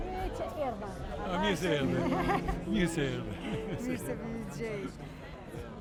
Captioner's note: speaking foreign language